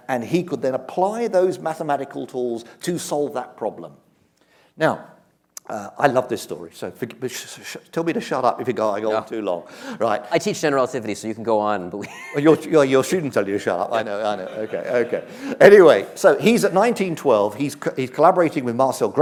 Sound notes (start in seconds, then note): 7.0 stuttering; 12.0 chuckles